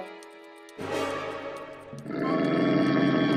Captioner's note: growling